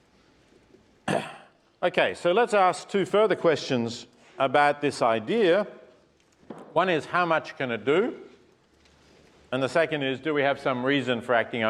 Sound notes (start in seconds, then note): 1.0 cough